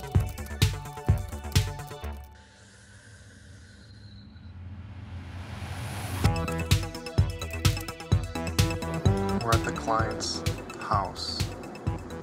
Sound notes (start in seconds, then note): 2.4 inhaling; 6.2 disco music continues